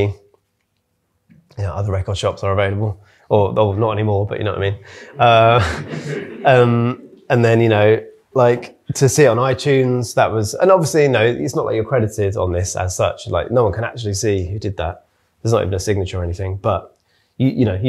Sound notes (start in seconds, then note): 4.9 audience laughing